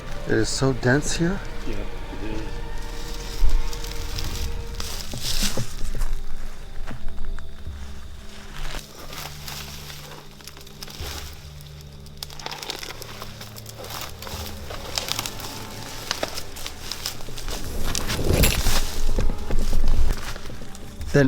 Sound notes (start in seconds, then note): 2.7 crackling sound; 2.7 dramatic music; 5.7 crackling sound; 16.4 crackling sound